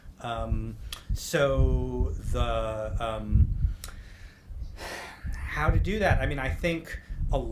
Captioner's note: sighs